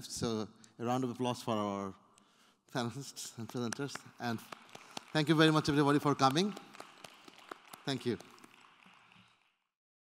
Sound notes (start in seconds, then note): 6.9 applause